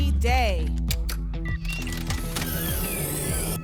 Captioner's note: electronic sounds; ticket dispenser sound